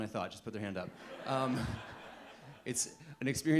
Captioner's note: audience laughing